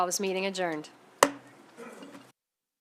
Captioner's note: gavel hitting dais